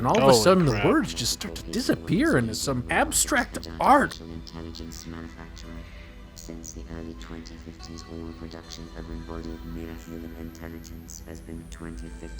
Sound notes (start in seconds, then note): 6.5 robot droning on and on